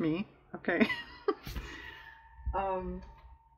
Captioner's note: laughs